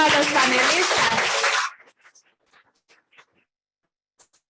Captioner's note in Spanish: aplausos